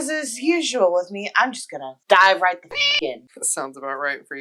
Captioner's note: meow